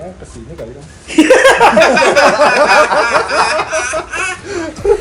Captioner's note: both laugh